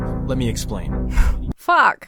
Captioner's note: sighs